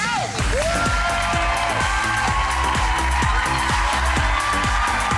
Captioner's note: audience cheering; upbeat music